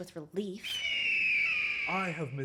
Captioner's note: eagle sound